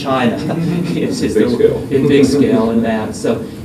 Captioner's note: laughter